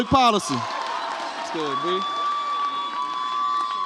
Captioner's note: audience cheers